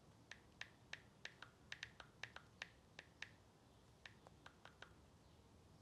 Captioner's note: phone keyboard clicking